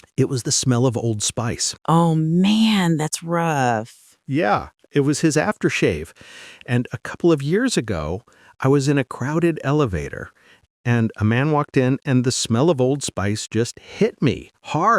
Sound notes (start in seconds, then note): 4.3 voice cracks